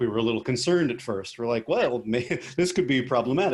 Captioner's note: chuckles